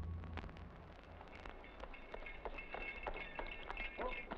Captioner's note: hoofbeats approaching